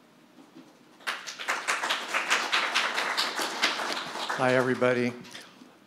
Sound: audience clapping

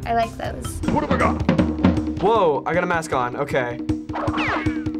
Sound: mutters, drums play

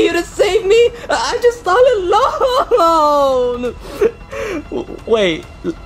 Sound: sobbing

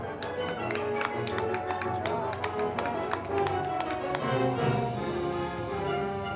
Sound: crowd clapping; band music

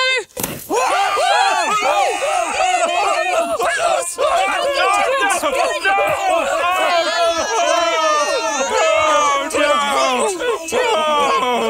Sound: Party popper bangs

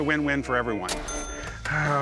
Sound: cash register chime

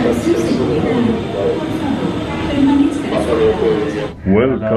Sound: muffled announcement

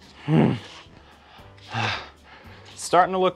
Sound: groans

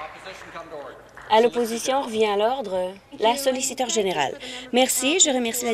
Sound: applause

